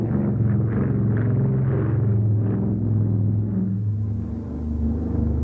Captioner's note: airplane engine roaring